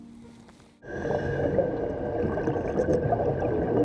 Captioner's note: breathing